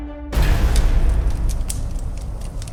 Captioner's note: gunshot; gunfire